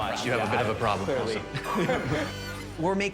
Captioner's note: laughs